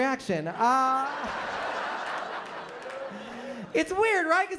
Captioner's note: laughter